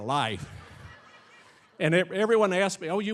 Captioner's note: audience laughing